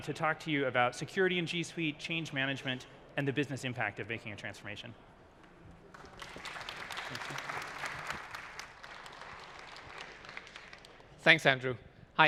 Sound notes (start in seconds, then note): 5.8 applause